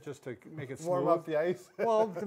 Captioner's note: laughing